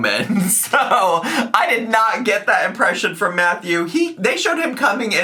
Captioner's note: laughs